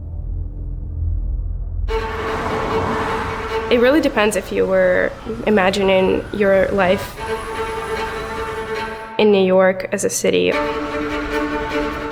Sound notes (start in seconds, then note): 2.1 tense music playing; 7.2 traffic noises